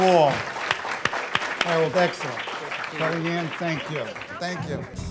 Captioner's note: applause